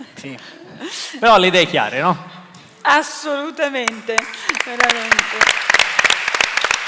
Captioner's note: Applauso